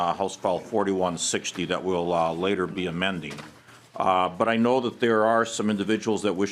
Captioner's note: gavel